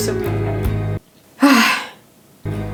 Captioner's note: sighs